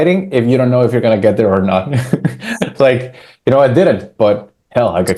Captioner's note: laughs